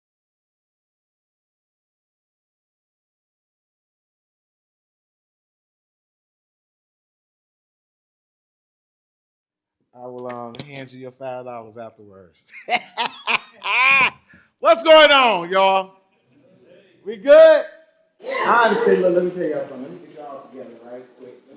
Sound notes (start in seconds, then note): 15.0 laughs